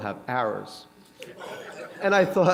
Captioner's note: laughter